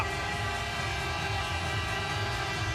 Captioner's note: horn